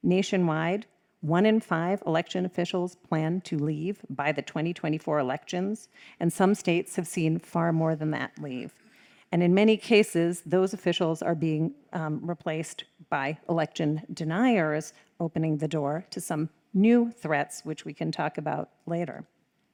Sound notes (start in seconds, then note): none